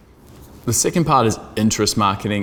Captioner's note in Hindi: गूंज स्पीकर को डुबो देता है